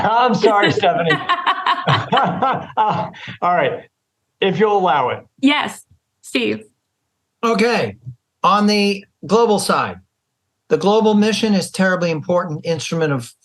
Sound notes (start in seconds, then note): 1.6 laughter